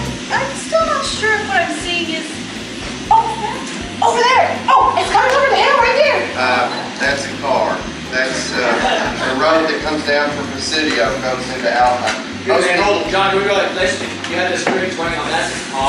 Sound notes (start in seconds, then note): 8.6 laughs